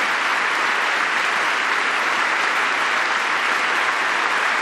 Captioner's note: applause